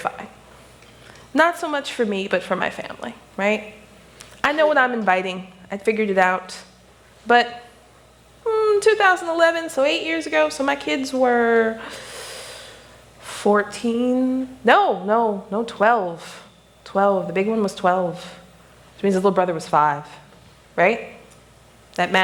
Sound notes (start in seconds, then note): none